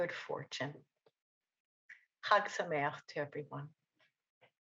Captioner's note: speaks Hebrew